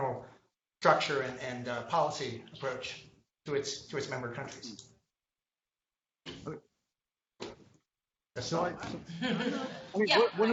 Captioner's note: laughter